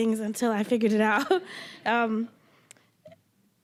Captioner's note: all laughing